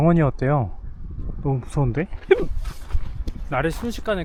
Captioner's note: hiccup